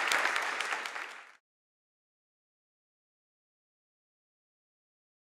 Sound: applause

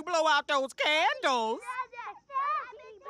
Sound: indistinct chatter

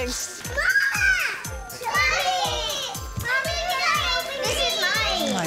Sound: girls screaming indistinctly

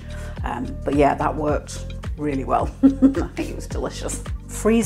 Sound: laugh

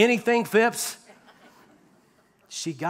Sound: laughter

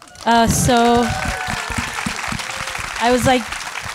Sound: audience applauding

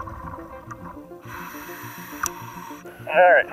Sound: inhaling air

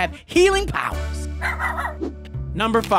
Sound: dog barking

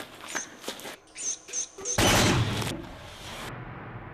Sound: gun shot

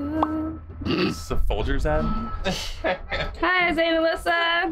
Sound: laughs

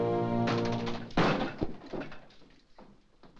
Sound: door bursts open

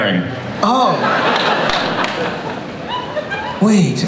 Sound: audience laughs

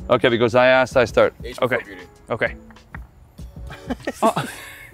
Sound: laugh

